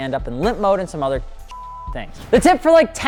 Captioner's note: beep